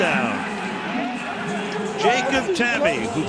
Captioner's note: pa announcement